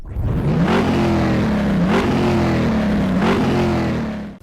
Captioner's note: engine revving